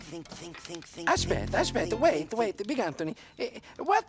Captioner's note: speaking in foreign language